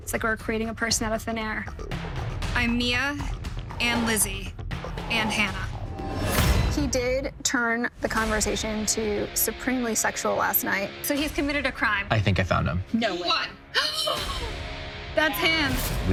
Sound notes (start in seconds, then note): 13.9 gasps